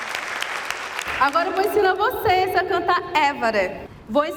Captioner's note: non-english speech